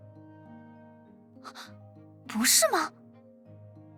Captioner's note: gasps